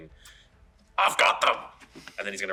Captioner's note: imitating Guard